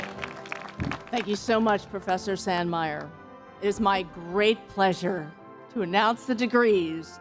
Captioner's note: applause